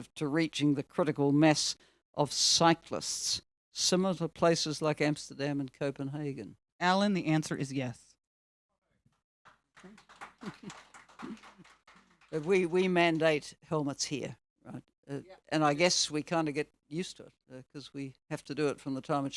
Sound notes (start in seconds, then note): 9.4 audience clapping; 9.9 chuckles